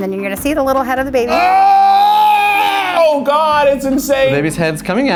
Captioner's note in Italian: urla di terrore